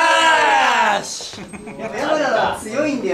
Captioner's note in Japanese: スタッフ笑い声